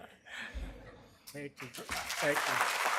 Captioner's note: applause